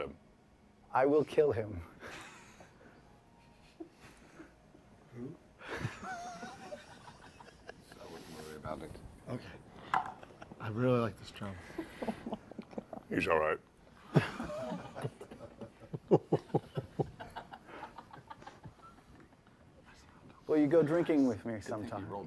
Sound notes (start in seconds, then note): 5.6 hushed laughter; 9.6 quietly; 14.0 hushed laughter